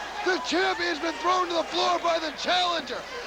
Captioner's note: crowd cheering